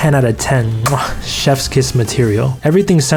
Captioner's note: kissing sound